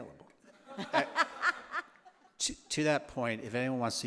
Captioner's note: laughter